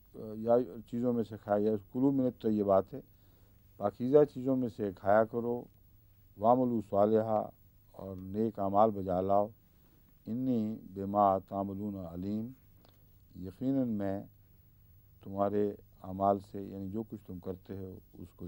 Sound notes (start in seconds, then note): 6.4 Arabic; 10.2 Arabic